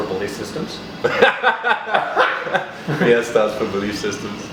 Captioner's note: both laughing